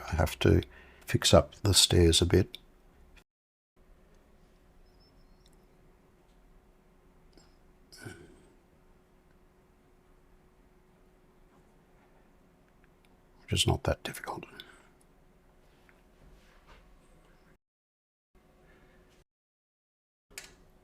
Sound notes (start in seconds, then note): 3.8 silence; 17.4 silence